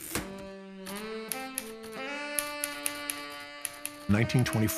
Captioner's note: typewriter keys clacking